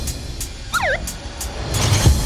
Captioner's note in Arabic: صفارة الشرطة